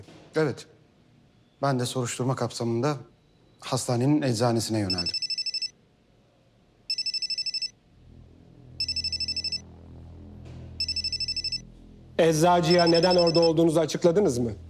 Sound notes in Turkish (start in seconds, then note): 4.8 Telefon çalıyor; 6.8 Telefon çalıyor; 8.8 Telefon ısrarlı çalıyor; 10.8 Telefon ısrarlı çalıyor; 14.5 Telefon ısrarlı çalıyor